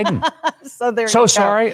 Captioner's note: laughing